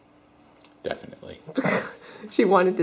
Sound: laughter

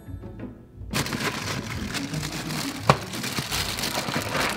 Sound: crinkling bags

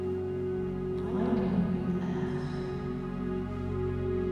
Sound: echoing speech

